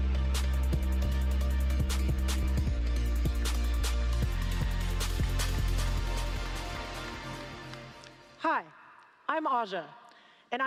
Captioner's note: applause